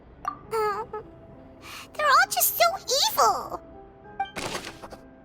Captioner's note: sigh